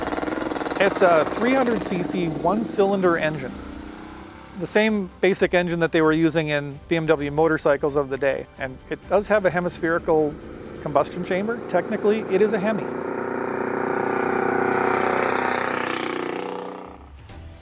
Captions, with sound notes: It's a 300 CC one cylinder engine, the same basic engine that they were using in BMW motorcycles of the day. And it does have a hemispherical combustion chamber, technically it is a hemi. (car engine rumbling)